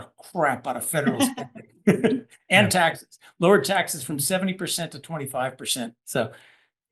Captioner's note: laugh